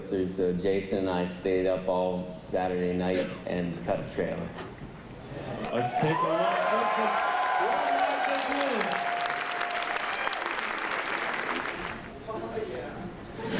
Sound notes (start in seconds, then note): 5.7 cheering and applause; 13.3 laughter